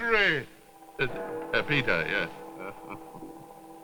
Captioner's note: stutters; chuckles